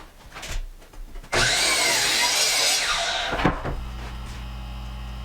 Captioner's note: saw whirring